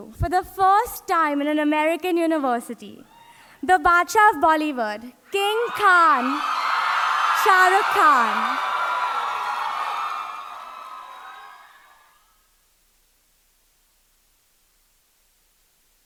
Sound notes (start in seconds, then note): 8.8 audience cheering